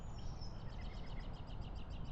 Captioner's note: birds chirping